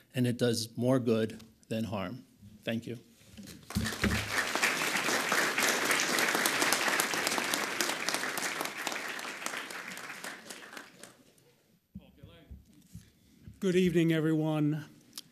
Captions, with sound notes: And it does more good than harm, thank you. (audience applauds) - Good evening everyone.